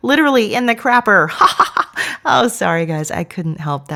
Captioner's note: laughs